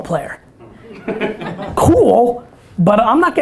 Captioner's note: audience laughter